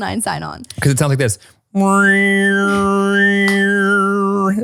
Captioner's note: mimics high pitch tone